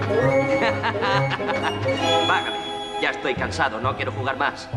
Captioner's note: laughing